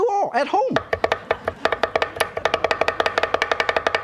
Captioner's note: chopping sounds